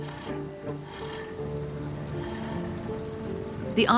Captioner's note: engine running